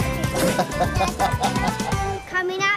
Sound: laughs

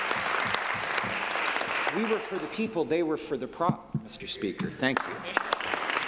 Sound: applause

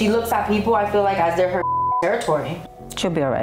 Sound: beep

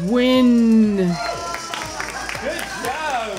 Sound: applause

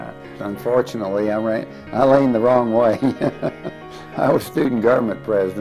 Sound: laughs

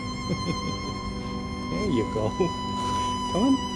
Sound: laughter

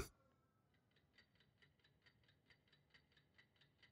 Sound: clock ticking

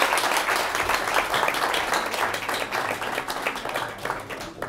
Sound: applause

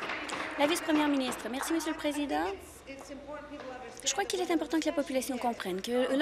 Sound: applause

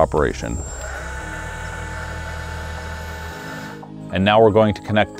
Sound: motor buzzes

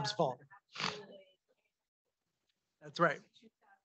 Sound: faintly speaking

